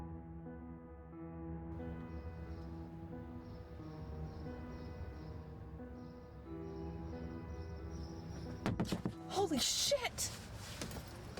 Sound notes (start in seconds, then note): 4.1 birds Chirp Ominously; 8.5 knocking Sound